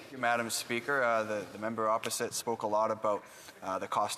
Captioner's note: speaking French